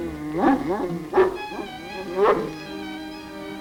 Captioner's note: barking